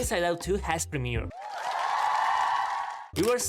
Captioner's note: applause